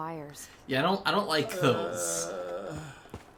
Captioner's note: groans uncomfortably